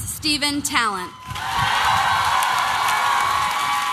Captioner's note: applause and cheering